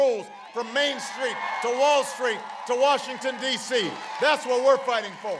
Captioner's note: applause